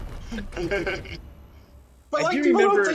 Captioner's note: laughing